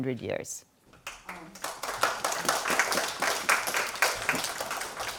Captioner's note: audience clapping